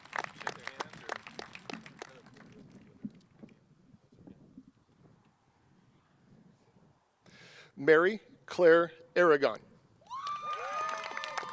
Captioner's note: cheers and applause